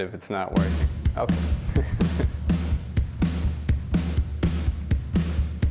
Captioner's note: laughs